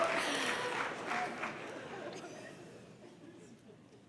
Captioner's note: audience cheering and applause